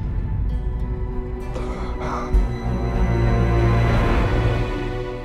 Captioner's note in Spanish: Sollozos